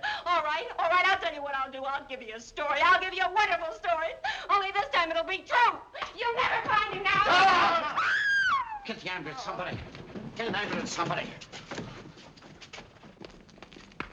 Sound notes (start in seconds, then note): 7.1 screaming; 7.3 shouting